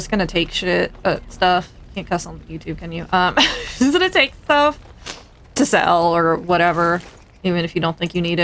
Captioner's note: laughs